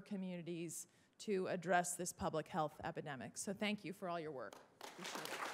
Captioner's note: applause